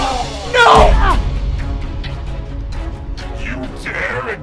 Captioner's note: group grunting; grunts